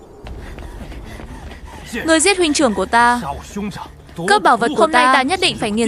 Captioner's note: gasping